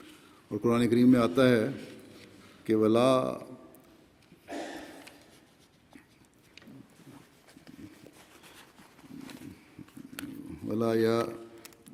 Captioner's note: Arabic